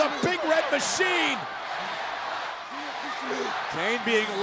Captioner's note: crowd cheering